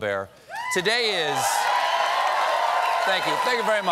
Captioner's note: cheers and applause